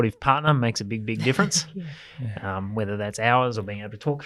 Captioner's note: laughs